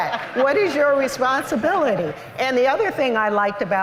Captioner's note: laughter